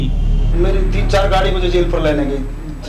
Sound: non-english speech

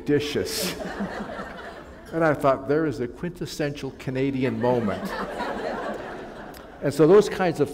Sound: laughter

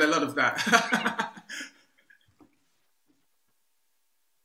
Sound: laughs loudly

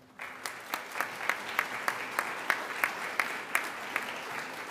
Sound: audience applauding

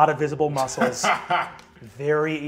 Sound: laughs

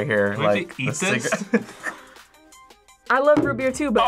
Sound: laughs

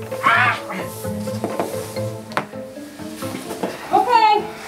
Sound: squeals

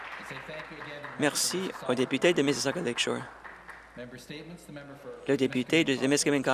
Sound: applause

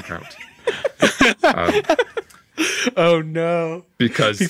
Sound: hosts laughing

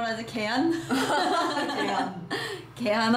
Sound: hahahaha

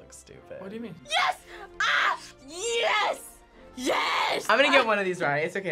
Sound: screams

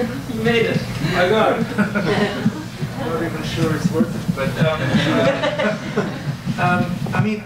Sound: audience laughs

